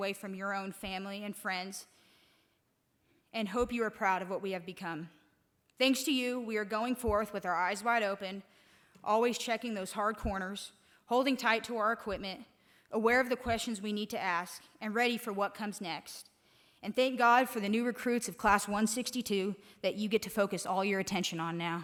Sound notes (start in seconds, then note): none